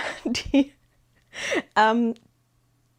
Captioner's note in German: gelächter